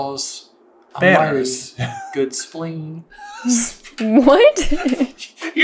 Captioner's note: laughing